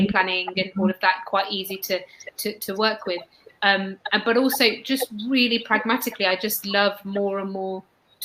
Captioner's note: erm